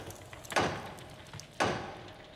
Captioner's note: knocking on door